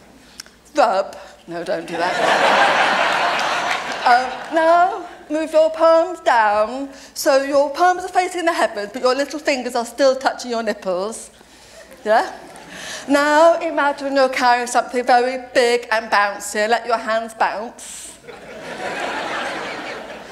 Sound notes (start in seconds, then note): 2.0 laughter; 18.2 laughter